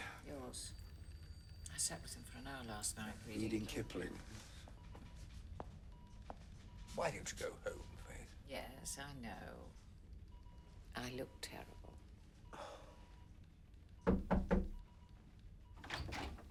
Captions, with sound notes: WHOSE TURN IS IT? YOURS. I SAT WITH HIM FOR AN HOUR LAST NIGHT READING -- KIPLING. WHY DON'T YOU GO HOME, FAITH? YES, I KNOW... I LOOK TERRIBLE. [SIGHS]